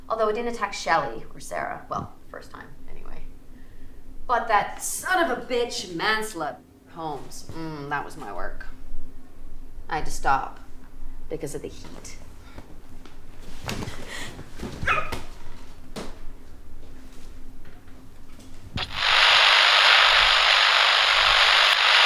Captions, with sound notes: Although I didn't attack Shelley or Sarah. Well, first time anyway, but that son of a bitch man-slut Holmes. Mm, that was my work. I had to stop because of the heat. (Jessie shrieking) (camera buzzing)